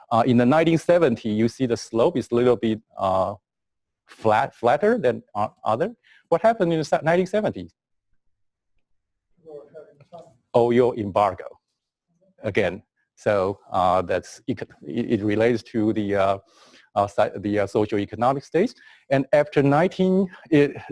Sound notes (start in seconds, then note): 8.0 pause